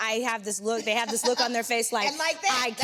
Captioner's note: Vernee laughs